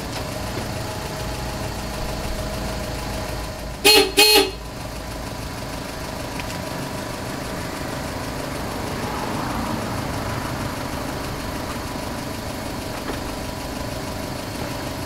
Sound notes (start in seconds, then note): 3.7 honk